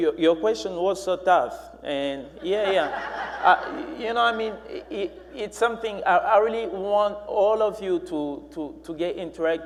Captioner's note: laughing